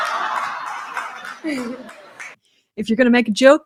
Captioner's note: laughter